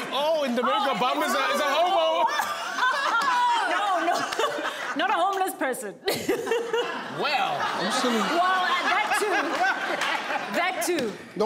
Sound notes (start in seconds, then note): 1.1 laughing; 6.0 laughs